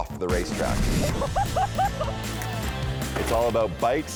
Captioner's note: woman laughs